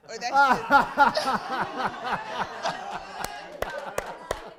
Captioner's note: laughing